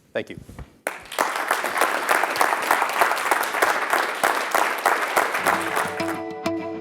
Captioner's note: applause